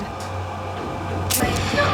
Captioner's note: gun clicks